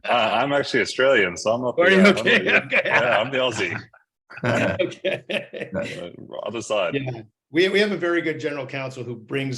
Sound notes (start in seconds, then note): 4.3 all laugh